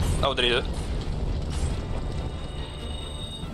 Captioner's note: none